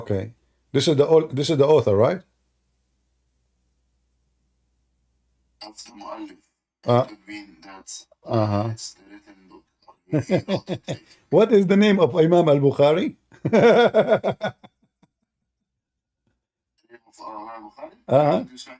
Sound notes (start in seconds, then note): 13.4 Ketawa